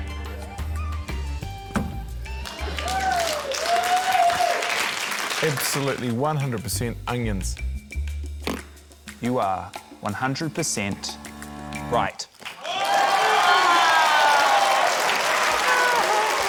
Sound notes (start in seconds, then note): 2.4 applause; 12.4 cheering, applause